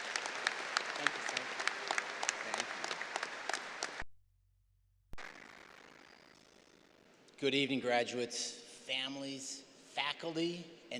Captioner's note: applause